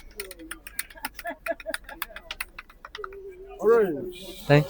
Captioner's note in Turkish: kahkaha